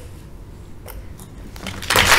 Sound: applause

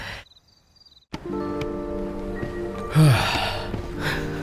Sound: sighing

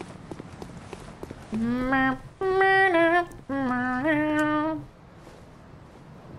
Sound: humming

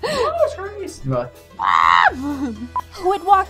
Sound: bird noises

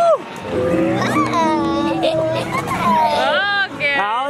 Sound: giggling

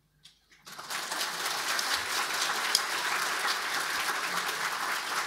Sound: audience applauding

